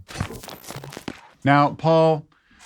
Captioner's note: logo whirs